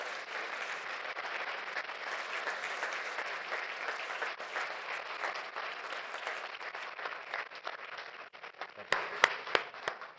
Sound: applause

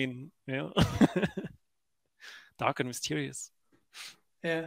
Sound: laughing

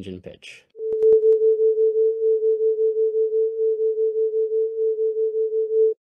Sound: tone plays

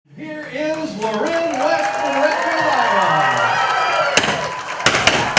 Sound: applause; confetti canons going off - continued applause

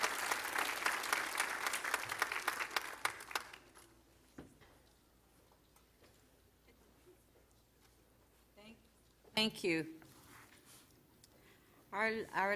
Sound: applause

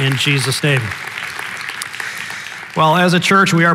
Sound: congregation applauding

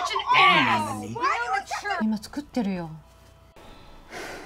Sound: couple speaking in a foreign language; Maha sighs

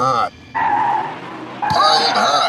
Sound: MORE screeching

